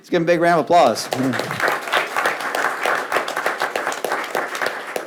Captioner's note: audience applauds